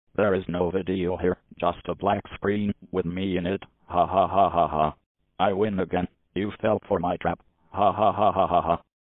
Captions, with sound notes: There is no video here, just a blank screen with me in it! (laughs maniacally) I win again! You felt for my trap! (laughs maniacally again)